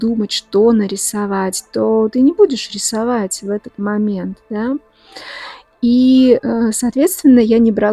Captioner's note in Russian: тяжело вздыхает